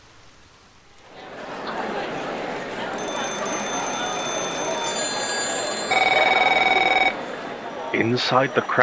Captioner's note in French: Sonneries téléphoniques et agitation du siège du GCPD